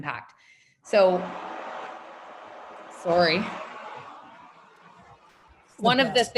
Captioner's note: machine whirring